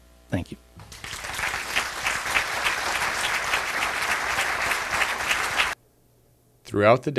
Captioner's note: audience applause